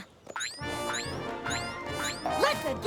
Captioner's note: boing! boing! boing!